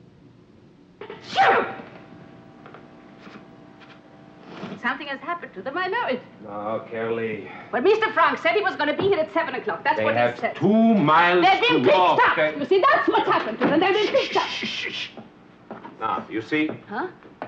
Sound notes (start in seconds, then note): 1.0 Petronella sneezes; 13.8 door clattering